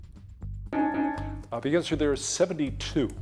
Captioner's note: timer beeping